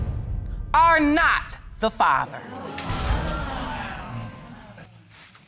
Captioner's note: audience exclaiming